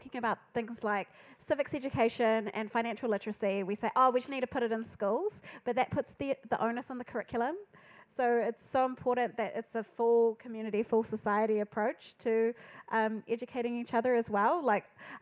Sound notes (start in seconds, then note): none